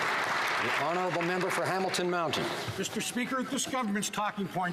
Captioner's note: some Applause